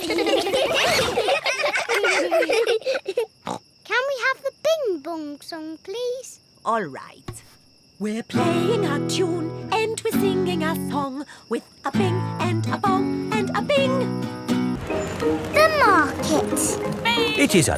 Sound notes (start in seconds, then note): 0.0 all giggling; 3.1 snorts